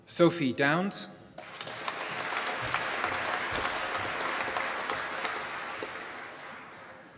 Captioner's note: applause